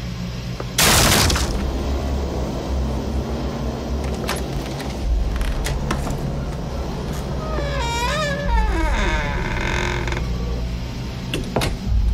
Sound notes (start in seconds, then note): 0.8 loud bursting; 7.6 creaking door